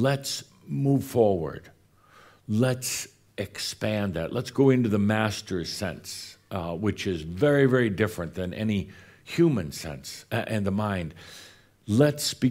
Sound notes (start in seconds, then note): none